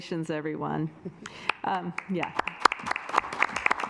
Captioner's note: assembly clapping